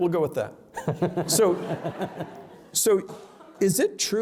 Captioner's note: laughter